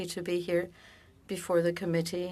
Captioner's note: speaking French